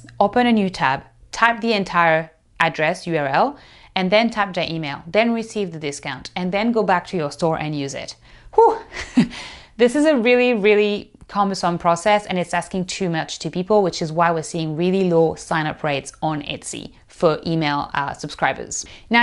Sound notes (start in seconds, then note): 8.6 chuckles